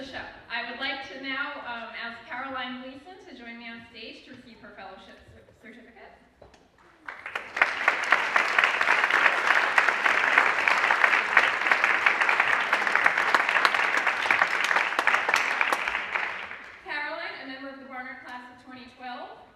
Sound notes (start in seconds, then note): 6.8 applause